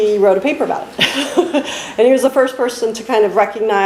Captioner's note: laughs